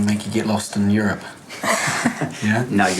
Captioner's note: laughs